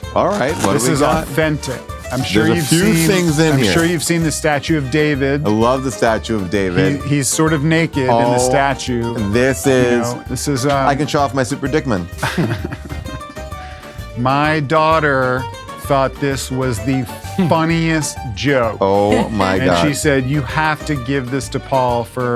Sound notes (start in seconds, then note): 12.2 chuckles